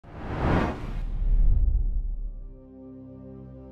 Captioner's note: air whooshing; slow music